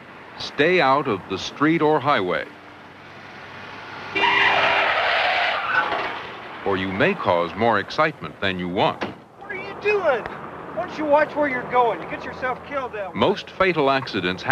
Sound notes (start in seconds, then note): 3.3 tired screeching